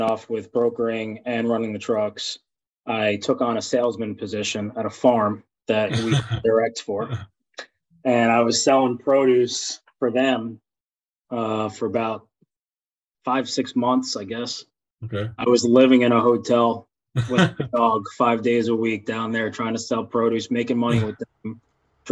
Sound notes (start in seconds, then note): 5.9 laughs